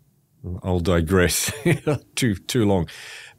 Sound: chuckles

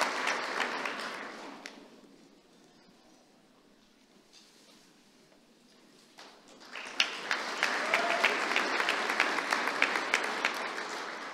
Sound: applause

